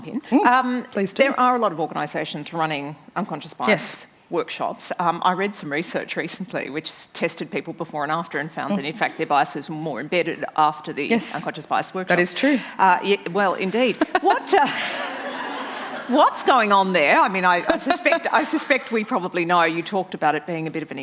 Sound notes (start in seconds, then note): 13.7 laughter; 17.6 laughing